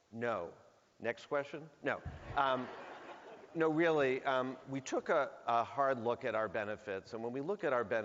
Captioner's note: laughter